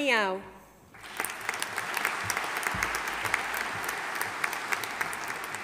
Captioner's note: audience applauding